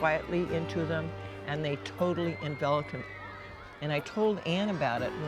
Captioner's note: cheers and applause